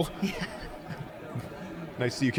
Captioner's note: chuckling